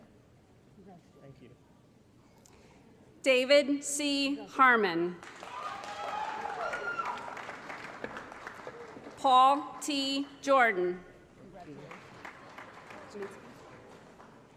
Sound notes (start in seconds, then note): 5.2 applause & Cheering; 11.6 applause